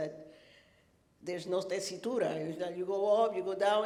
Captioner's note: speaking foreign language